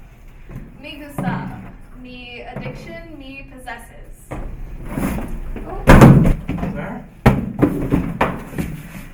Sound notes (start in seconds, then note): 5.6 box thuds; 6.3 Gustav speaks in Zomblish